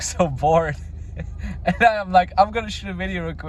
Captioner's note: laughs softly